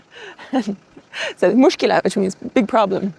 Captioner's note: laughs softly; speaks in foreign language